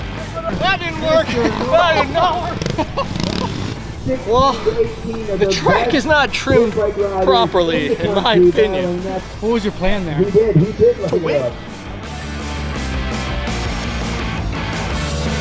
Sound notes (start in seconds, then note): 2.7 laughing